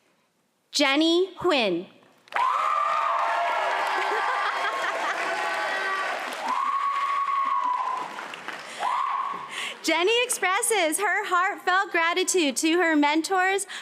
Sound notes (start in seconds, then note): 2.3 cheering and applause